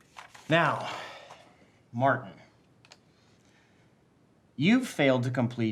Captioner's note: sighs